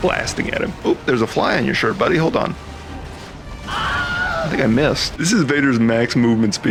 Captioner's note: scream